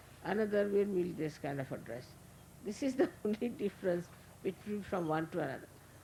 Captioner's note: Shri Mataji laughing